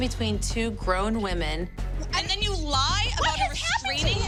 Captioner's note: sputters